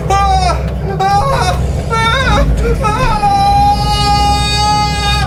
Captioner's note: demonic whispering; Larry screaming